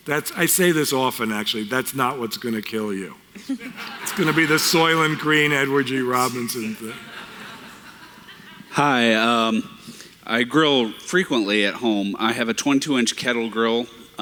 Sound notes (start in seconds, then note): 3.4 audiene Laughter